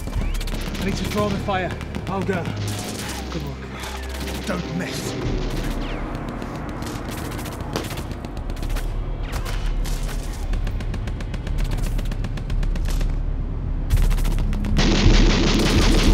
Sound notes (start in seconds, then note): 4.8 guns firing